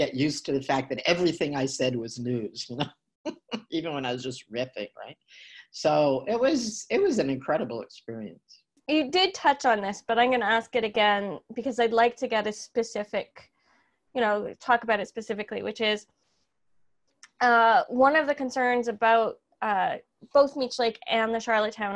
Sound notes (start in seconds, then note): 3.3 chuckling